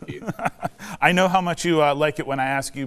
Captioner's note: laughs